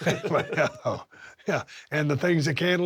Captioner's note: Drew and Steve chuckle